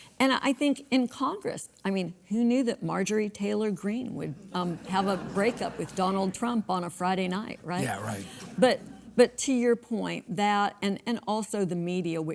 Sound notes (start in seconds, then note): 4.4 audience laughs